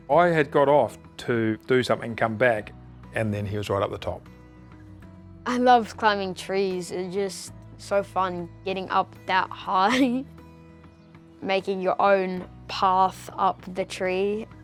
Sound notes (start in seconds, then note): 9.8 chuckles